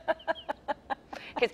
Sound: laughs

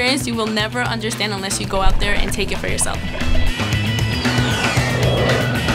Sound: jet engine sound effect

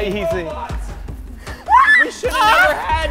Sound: screams

